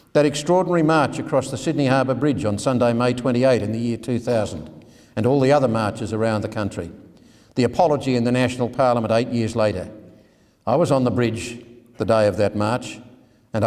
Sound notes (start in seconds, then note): none